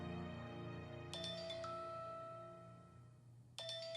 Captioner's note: phone ringing